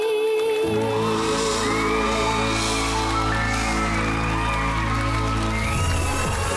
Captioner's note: crowd cheers, applauds; upbeat music playing